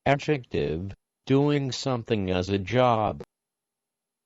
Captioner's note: synthesized Voice